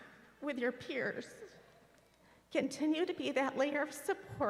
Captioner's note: none